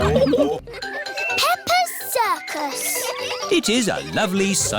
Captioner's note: children giggling